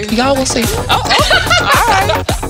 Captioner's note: laughs